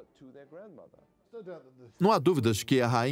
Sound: voiceover

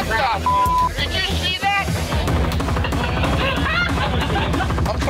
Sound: beep; laughing

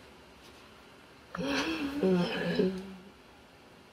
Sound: grumbling

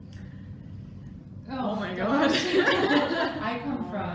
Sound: laughter

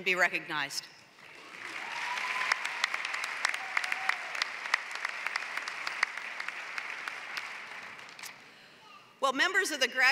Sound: applause

